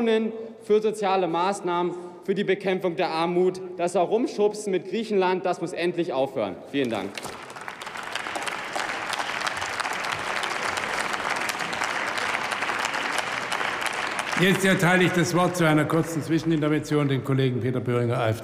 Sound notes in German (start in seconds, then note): 8.5 Beifall